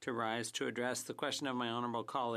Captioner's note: speaking French